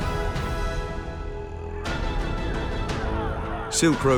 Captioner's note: shouting